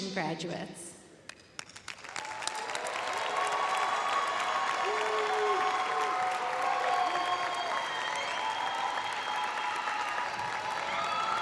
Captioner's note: cheers and applause